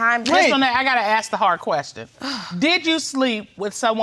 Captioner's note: sighs